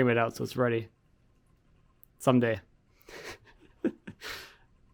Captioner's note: laughs